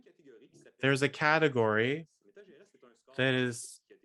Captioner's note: speaking french